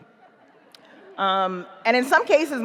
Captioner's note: audience chuckles